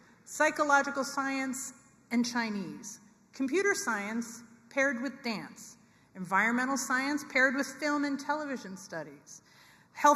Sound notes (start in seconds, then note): none